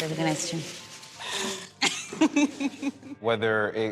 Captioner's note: scoffs; laughs